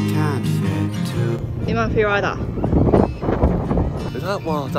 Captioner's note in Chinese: 大風